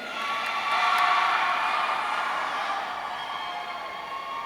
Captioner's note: audience cheering